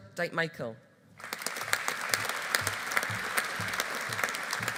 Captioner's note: audience applauding